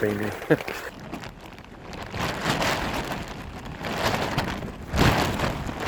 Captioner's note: rain fly flapping